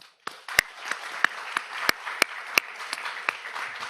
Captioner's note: audience applauds